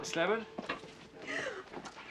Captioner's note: Terengah